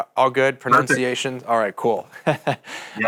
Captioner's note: chuckles